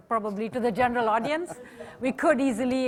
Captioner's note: laughter